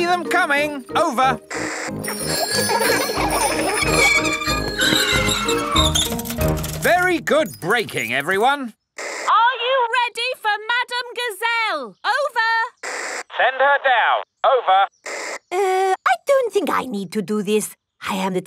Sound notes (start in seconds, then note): 2.0 giggling and ringing bells; 3.8 tires screech; 12.8 walkie-talkie crackles